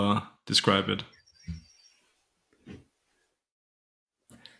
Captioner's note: birds chirping